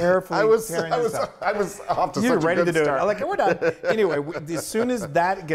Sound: laugh

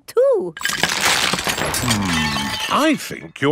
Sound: cracking

